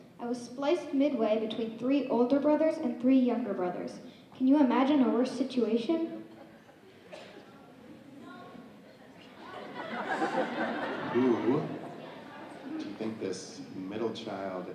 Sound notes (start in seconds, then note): 9.2 audience laughing